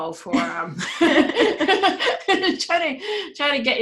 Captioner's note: they laugh